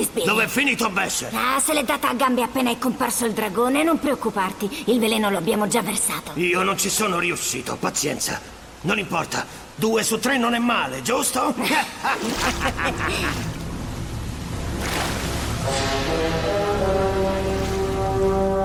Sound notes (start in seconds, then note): 11.6 laughs; 15.6 thrilling music